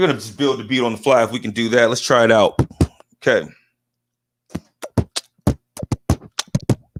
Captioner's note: beat boxing